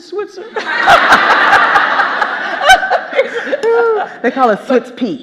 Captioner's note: all laughing